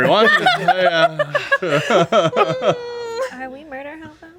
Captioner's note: group laughing